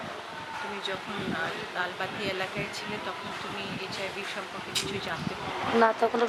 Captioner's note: speaking Indian language